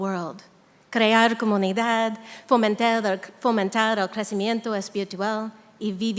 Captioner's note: speaking in Spanish